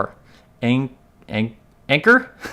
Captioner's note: laughs